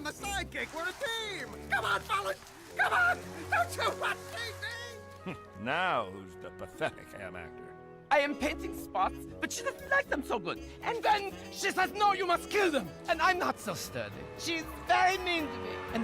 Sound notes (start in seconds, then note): 2.8 sobbing